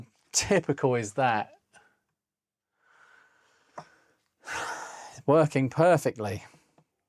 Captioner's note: sighs